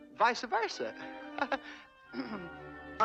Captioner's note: laughs, clears throat